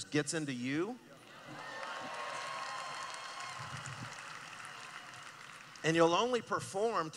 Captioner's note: cheering